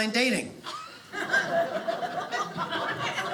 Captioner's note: audience laughing